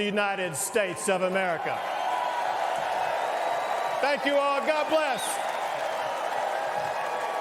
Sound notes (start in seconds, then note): 4.0 cheers and applause